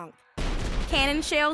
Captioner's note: cannon firing